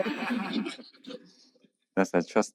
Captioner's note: laughs